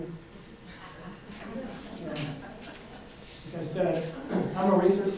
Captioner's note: audience laughs